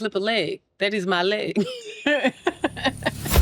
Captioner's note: laughs